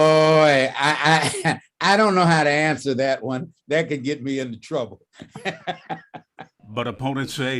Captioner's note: laughter